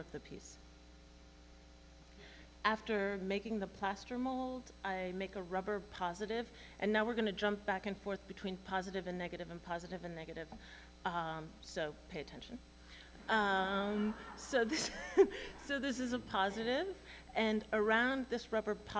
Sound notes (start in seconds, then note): 13.9 laughter